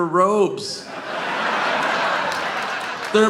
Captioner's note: audience laughing